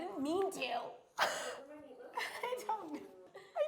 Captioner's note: laughs